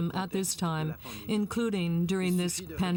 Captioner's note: speaking French